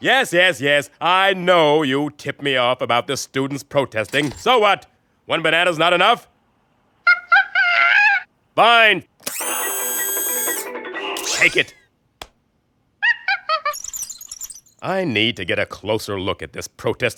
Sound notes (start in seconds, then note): 7.1 monkey screeches angrily; 11.2 monkey hoots contentedly